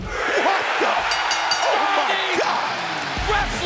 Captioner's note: bell rings